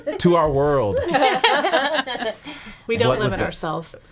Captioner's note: laughing